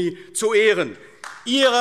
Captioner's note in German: Beifall AfD